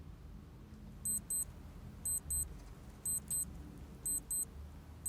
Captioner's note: alarm beeping